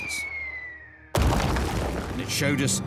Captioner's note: whistling; crash